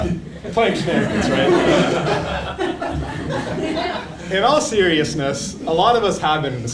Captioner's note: laugh